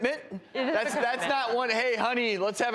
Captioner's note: laughter